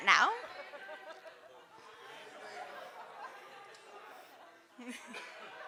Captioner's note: audience chattering